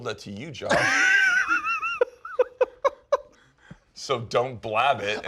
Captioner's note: laughs